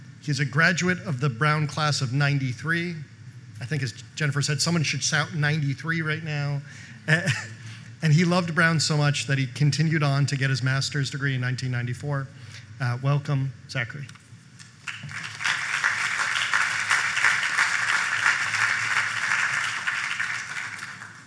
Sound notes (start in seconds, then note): 14.7 applause